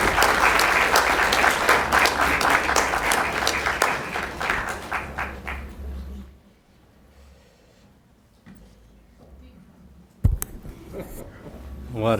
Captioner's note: applause